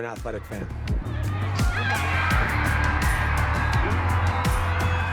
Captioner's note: crowd cheering